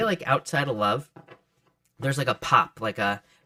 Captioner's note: cards thud softly